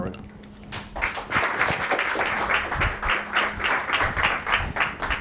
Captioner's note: audience applauds